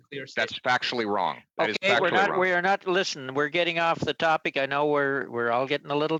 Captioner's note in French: voix de l'interprète